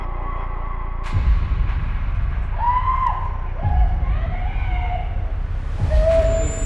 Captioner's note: screaming